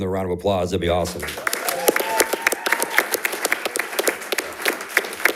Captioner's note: audience cheering